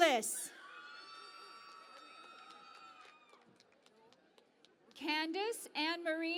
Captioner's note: cheering and Applause